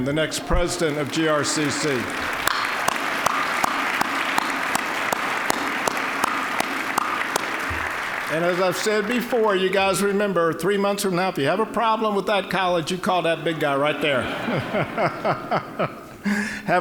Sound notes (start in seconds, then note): 3.0 applause; 13.2 all laughing